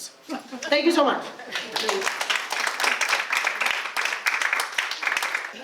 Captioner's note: audience applause